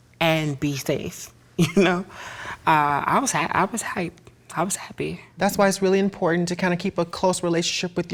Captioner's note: laughs